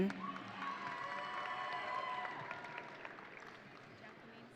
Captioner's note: audience cheering